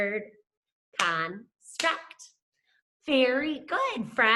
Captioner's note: clapping